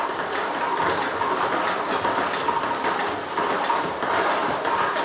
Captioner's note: ball ping pong hitting continues